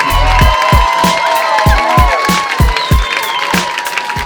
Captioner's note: audience cheers and applauds